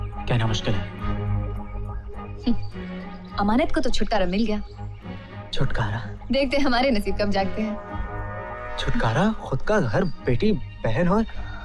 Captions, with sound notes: It's hard to say. [Chuckles] Amanat is finally free. Freedom? - I wonder when fate will be kind. Freedom? She had a family, a daughter, a sister..